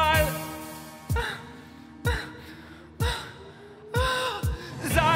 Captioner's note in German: hohes Stöhnen